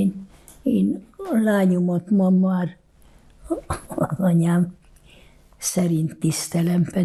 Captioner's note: laughing